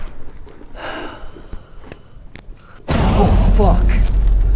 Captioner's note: Pete sighs